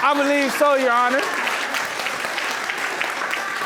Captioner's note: audience applauding